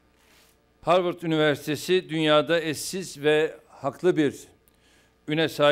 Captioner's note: non-english speech